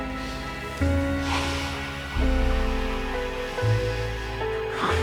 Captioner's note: Milton sniffing